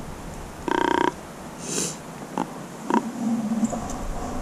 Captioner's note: blowing grunt call